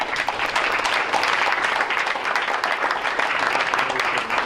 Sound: crowd applauds

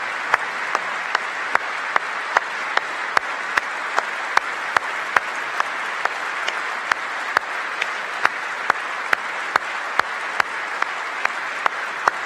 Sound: applause

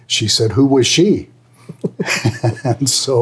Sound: laughing

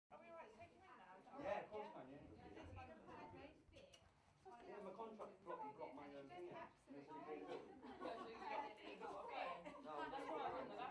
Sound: faint background noise of chatter

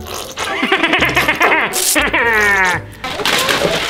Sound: Grinch laughing

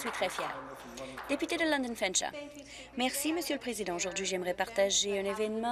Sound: some applause

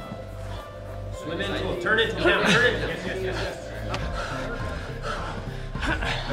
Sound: chattering

